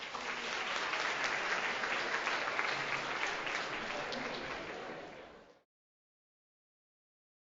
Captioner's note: applause